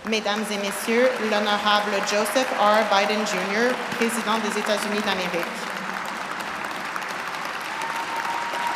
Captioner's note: speaking French